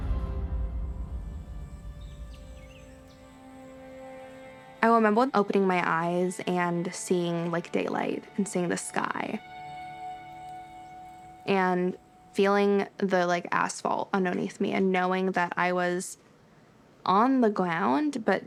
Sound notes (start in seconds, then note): 3.4 birds chirping